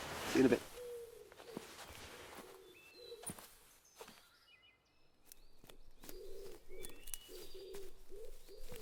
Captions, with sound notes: - See you in a bit. (footsteps thudding)